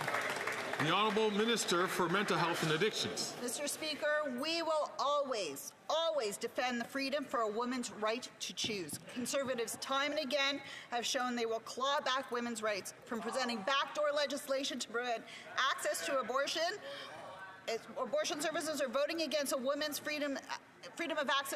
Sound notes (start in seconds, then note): 3.8 some Applause